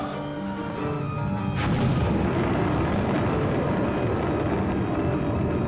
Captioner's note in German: Explosion